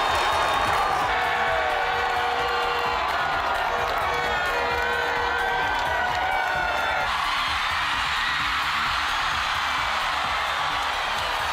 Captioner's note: crowd Noise; cheering